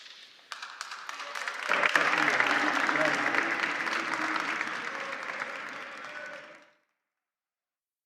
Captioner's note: applause